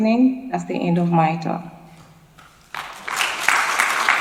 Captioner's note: applause